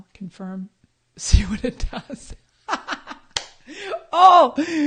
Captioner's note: laughing